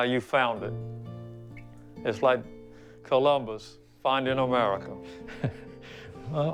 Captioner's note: laugh